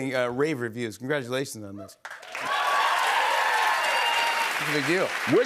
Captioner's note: cheers and applause